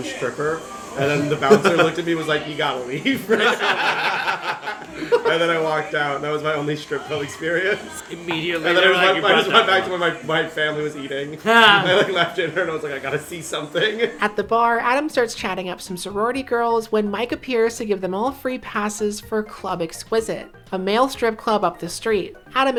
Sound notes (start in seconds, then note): 3.0 laughter